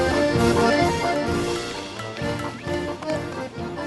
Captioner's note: plink! Plink! Plink! Plink!